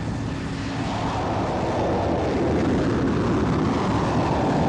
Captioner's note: explosion rumbles